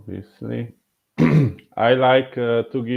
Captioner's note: clearing throat